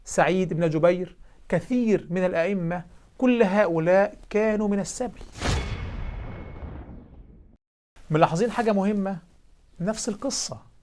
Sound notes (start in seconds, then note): 5.3 sound effect